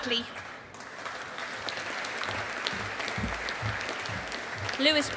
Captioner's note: audience applauding